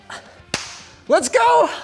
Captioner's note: hands clapping